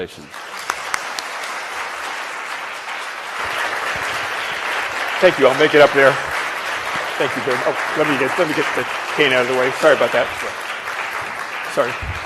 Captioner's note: applause